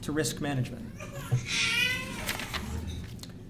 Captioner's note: baby crying